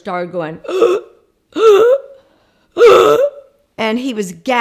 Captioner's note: gasping